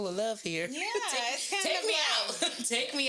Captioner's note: laughs